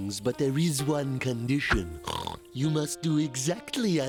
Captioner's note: snorts